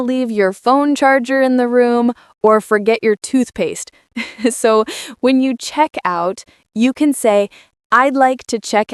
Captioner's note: laughing